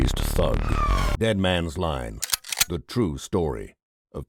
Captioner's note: gun cocks